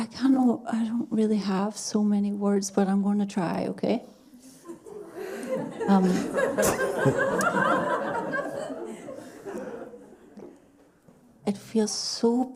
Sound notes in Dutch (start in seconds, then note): 4.6 gelach; 6.8 Mooji lacht ook